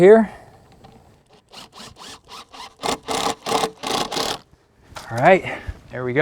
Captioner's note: drill whirring, no additional audio